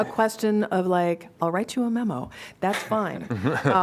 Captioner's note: laughter